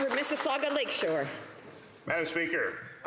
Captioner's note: some Applause